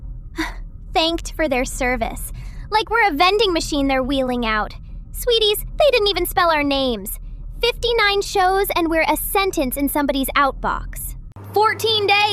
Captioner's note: breath